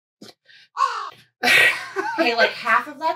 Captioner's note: caw